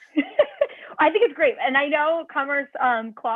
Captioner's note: laughter